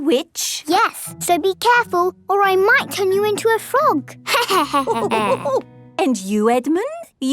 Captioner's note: laughter